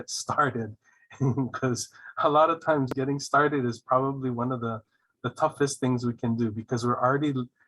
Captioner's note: laughing